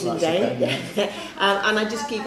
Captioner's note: laughs